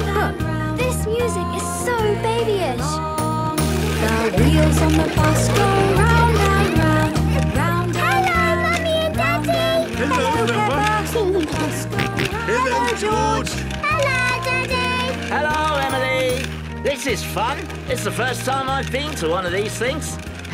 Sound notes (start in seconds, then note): 11.6 George giggling and snorting